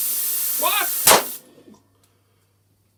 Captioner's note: bang